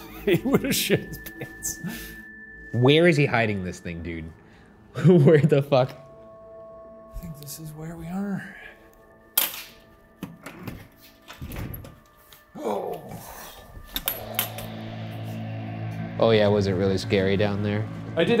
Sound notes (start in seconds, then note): 0.0 laughing; 10.2 door opening; 12.9 grunts